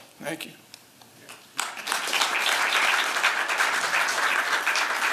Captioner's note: applause